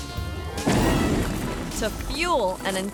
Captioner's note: explosion booms